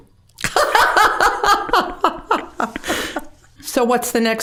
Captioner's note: both laughing